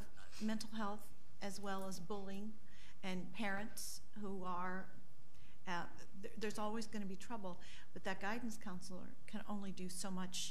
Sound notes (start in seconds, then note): none